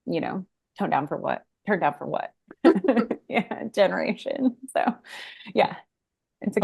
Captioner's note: laughs